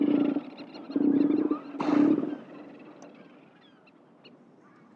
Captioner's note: elephant seal grunting